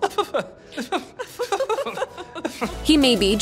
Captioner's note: laughing